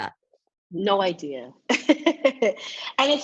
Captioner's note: laughs